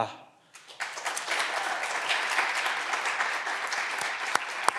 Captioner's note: clapping continues